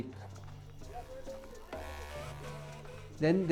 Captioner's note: indistinct chatter